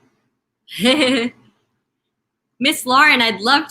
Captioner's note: laughing